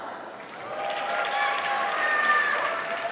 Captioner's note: applause